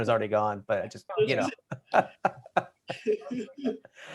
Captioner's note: laughter